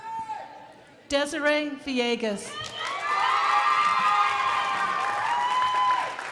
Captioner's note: crowd applauding